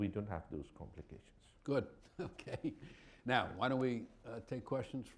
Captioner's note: chuckles